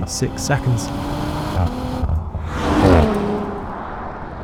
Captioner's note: vehicle revs